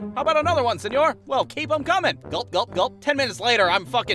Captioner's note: gulp-gulp-gulp